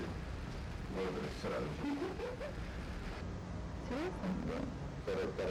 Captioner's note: couple speaking in Russian